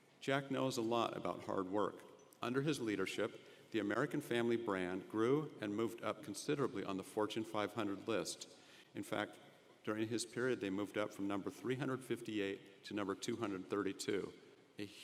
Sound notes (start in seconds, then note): none